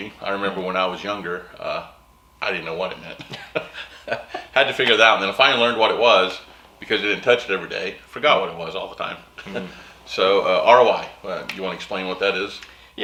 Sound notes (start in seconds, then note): 3.2 laughs